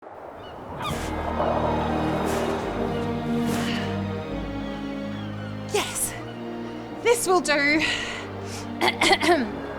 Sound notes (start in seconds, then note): 0.0 wind howls; 0.1 gulls squawk; 8.2 clears throat